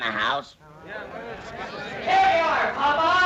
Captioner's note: audience chattering